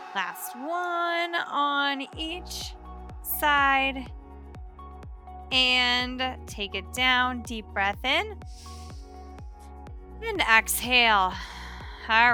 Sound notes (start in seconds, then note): 8.5 inhales deeply; 11.4 exhales heavily